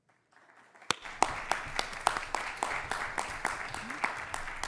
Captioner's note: applause